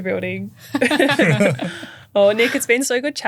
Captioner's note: everyone laughing